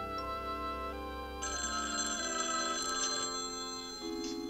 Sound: phone rings

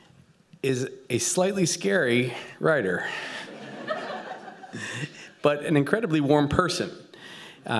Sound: laughter

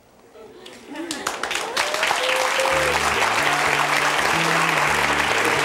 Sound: audience applauding

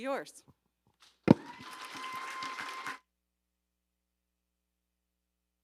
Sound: audience applauding

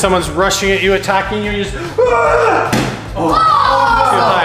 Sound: grunts

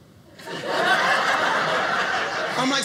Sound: audience laughing

